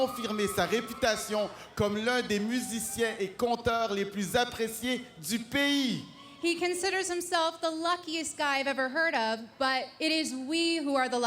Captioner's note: speaking french